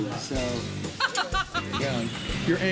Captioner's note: laughter